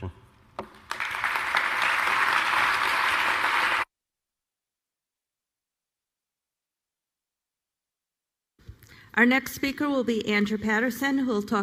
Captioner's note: applause